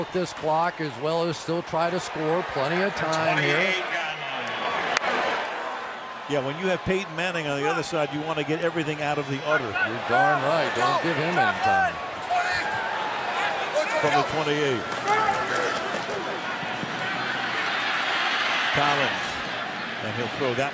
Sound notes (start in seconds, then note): 4.3 pa announcement